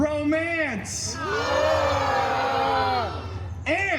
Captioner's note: guests cheering